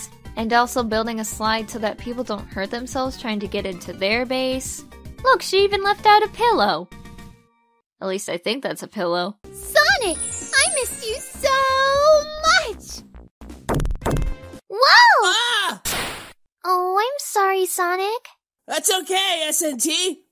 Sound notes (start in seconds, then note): 14.7 exclaiming